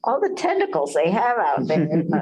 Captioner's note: laughter